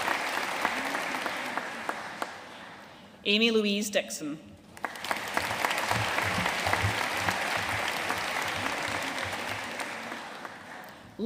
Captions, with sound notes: Amy-Louise Dickson. (AUDIENCE APPLAUDING)